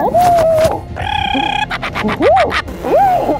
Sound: clown noises

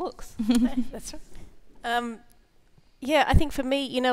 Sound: ladies chuckling

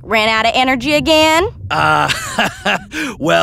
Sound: embarrassed laughing

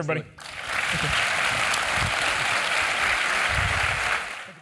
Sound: applause

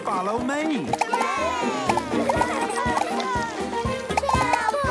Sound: cheering

